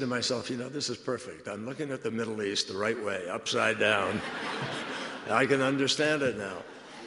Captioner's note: laughter